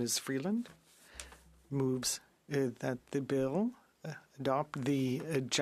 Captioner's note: speaking French